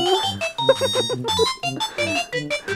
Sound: snickering

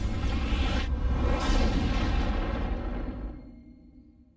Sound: tornado stops

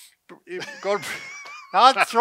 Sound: both laugh

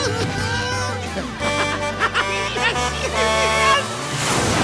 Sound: giggling; truck horn

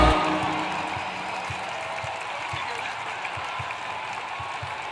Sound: cheers and applause

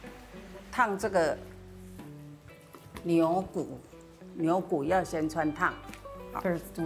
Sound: speaking local dialect

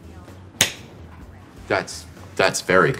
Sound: slap

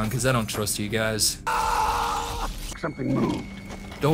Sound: screaming

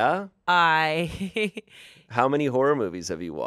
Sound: laughs

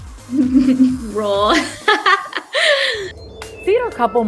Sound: laughs

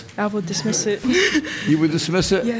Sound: giggles

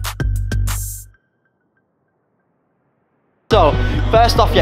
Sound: awkward Silence, Literally No Sound

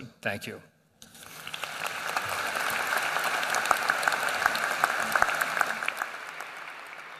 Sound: applause

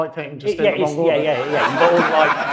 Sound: audience laughs

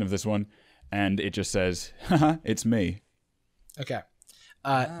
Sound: laughs

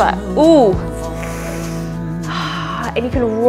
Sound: sighs

